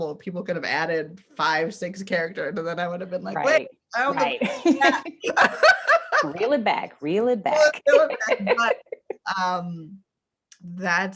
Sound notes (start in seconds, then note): 4.3 laughs; 7.7 laughs